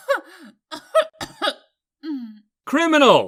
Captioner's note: candle laughs; candle coughs